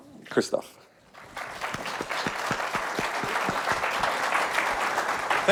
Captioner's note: audience applauds